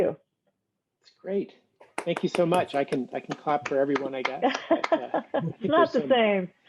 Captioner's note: laughs